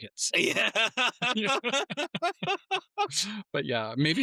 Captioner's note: laughing